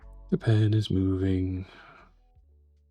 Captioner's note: inhales